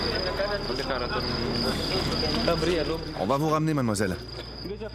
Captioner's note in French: audio parlé en français